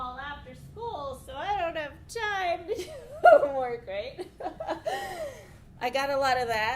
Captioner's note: laughs